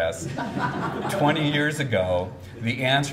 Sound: audience laughs

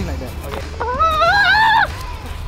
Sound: screams

